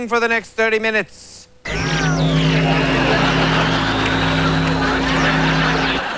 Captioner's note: audio static